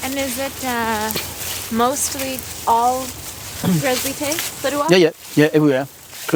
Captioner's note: sounds of footsteps on grass